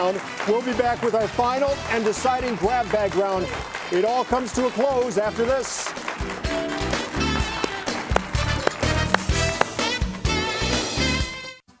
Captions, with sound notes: We'll be back with our final and deciding grab bag round. It all comes to a close after this. (audience applauding) (upbeat music)